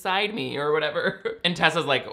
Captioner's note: laughs